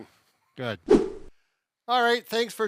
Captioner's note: fast swooshing